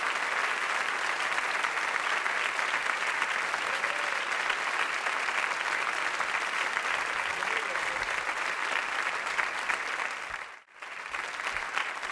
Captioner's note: audience applauding